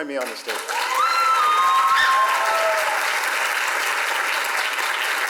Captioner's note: audience applaud and cheer